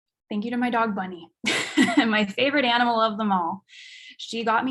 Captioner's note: chuckles